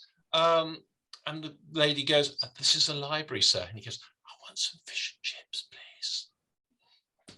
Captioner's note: whispering